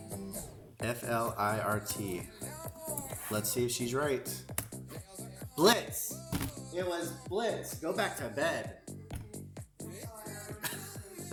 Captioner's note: laughter